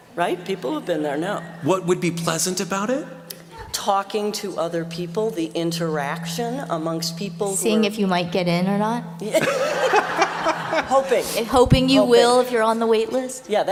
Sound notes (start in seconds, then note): 9.3 laughter